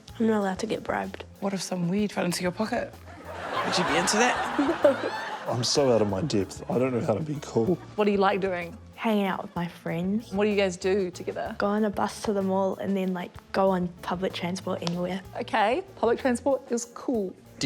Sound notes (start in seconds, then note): 3.1 laughs; 3.1 laughter